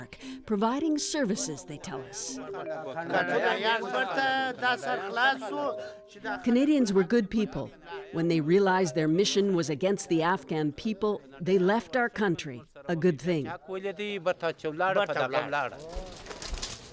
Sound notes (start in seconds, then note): 4.1 speaking Foreign Language